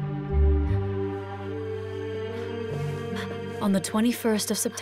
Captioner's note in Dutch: spannende muziek; Catherine hijgt